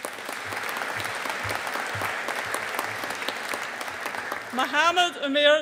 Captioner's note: audience applauding